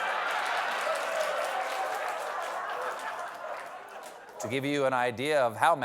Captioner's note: applause; laughter